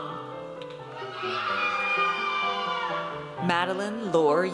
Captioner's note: audience cheers